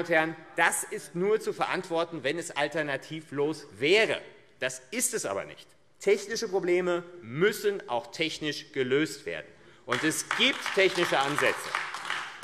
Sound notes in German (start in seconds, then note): 9.9 Beifall AfD